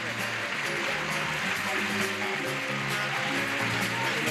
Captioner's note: audience applauds